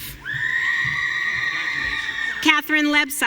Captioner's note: audience cheering